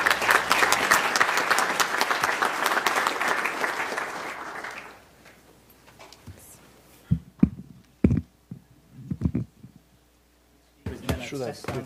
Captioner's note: applause